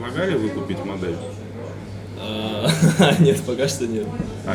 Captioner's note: laughs